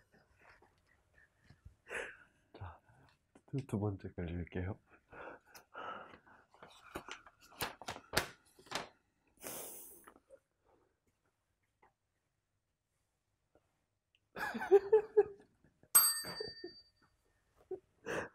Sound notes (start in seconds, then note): 15.9 chime